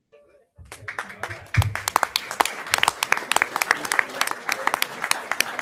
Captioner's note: audience applauding